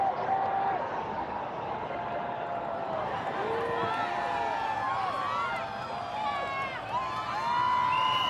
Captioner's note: cheering; yelling; cheering